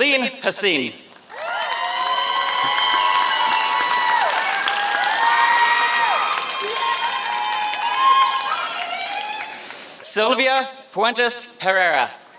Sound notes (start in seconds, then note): 1.1 applause